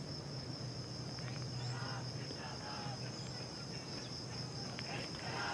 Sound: distant sound of a protest

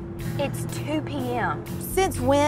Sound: car engine humming

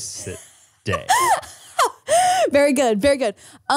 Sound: laughing

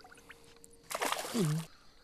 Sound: splash

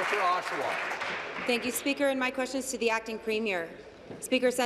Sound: applause

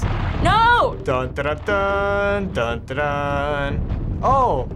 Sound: vocalizing theme

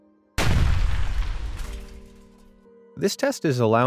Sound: prototype exploding

